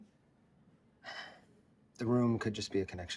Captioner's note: Louis sighs